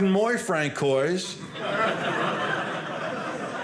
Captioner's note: audience laughing